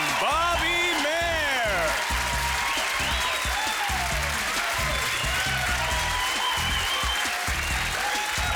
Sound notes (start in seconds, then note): 1.3 applause